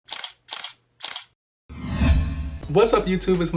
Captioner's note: camera shutters